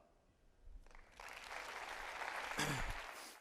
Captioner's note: audience applauding